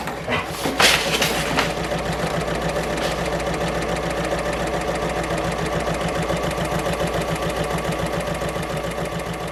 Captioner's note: sewing Machine Sounds